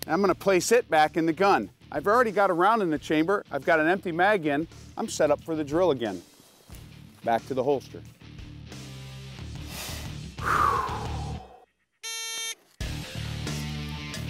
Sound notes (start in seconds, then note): 8.0 rock music; 9.6 deeply exhales; 12.0 signal beeps